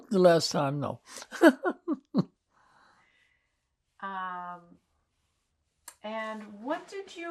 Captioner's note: laughing